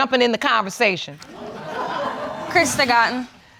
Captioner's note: audience laughing